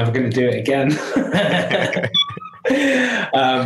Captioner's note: laughing